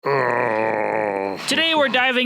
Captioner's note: growling